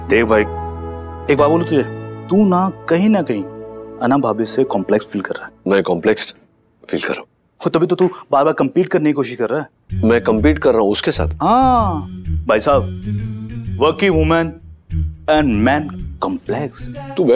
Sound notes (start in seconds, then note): none